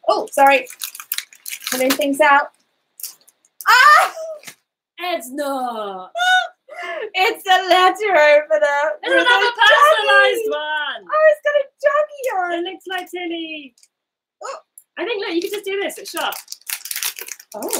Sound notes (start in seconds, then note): 6.4 laughs